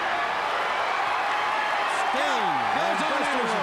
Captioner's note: crowd cheers